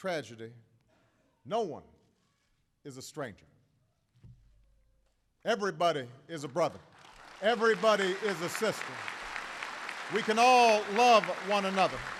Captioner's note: applause